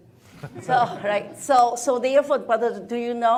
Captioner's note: attendees laughing